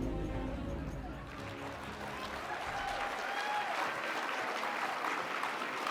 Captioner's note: audience cheers and applauds